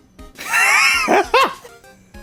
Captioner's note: wheeze